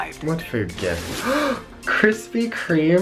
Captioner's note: gasping